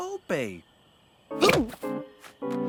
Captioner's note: Dad hiccups